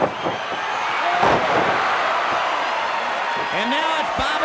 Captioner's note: mat slams